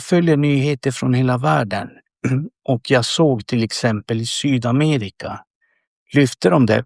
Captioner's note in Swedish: harklar sig